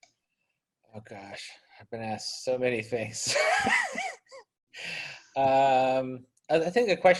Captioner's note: laughs